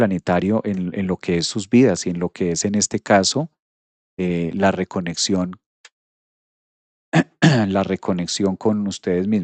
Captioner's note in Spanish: carraspeo